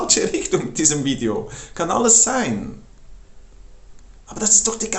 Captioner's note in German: lacht